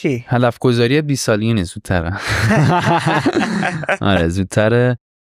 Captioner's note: laughs